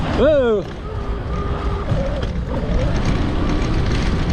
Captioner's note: bike grumbling